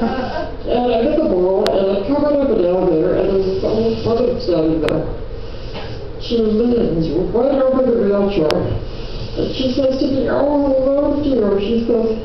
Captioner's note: laughter